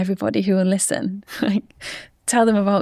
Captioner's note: chuckles